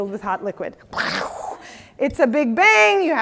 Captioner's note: imitates explosion